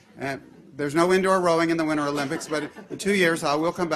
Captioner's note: laughter